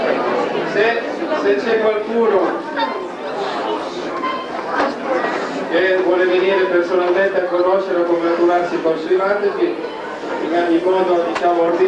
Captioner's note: italian